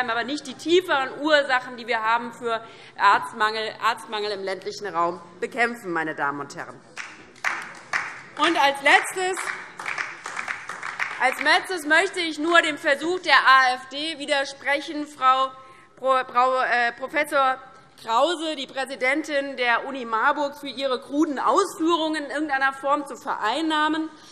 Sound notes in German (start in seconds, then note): 8.6 Beifall DIE LINKE